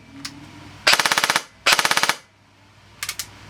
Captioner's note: airsoft Gun Full Auto